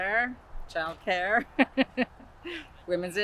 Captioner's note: she laughs